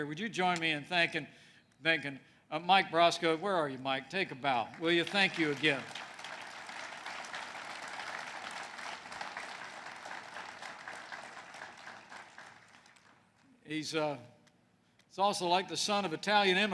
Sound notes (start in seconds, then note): 4.6 applause